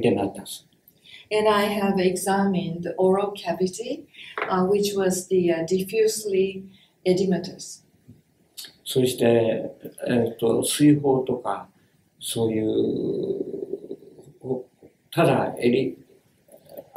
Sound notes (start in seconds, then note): 8.5 speaks Japanese